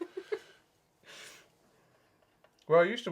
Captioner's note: laughs